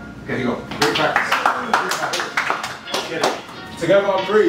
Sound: applause

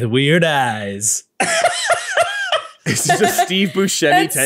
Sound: laughing

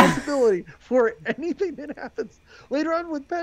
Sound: laughing

